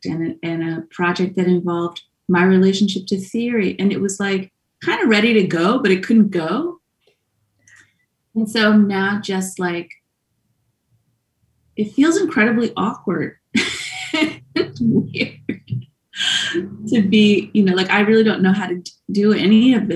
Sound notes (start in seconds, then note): 13.5 laughs